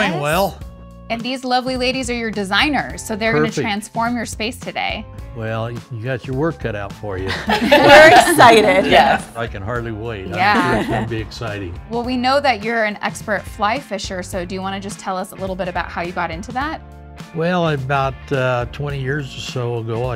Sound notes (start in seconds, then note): 7.2 all laugh